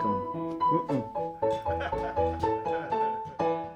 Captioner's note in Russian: смех